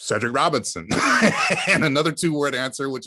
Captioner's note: laugh